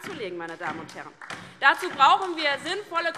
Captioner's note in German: Beifall DIE LINKE